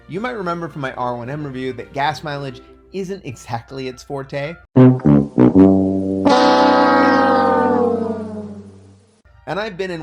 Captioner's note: Price is right failure sound